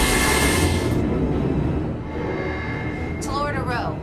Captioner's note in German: Electronische Blitze; Sirenen